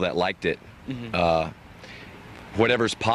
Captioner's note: interviewer laughs